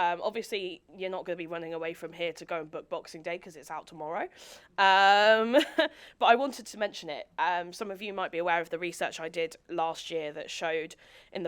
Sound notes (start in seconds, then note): 5.6 chuckles